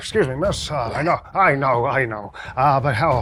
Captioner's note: grunts